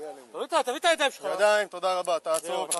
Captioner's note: speaking In Foreign Language